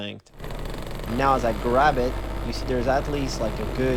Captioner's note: machine engine roars